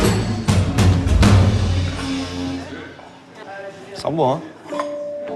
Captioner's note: all speaking in French; light instrumental music